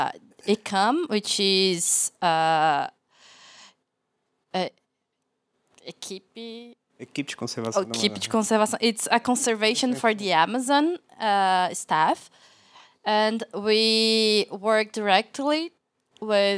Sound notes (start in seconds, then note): 5.9 non-english speech